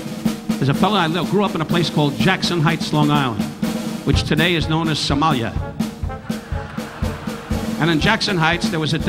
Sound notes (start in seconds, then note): 6.0 audience laughing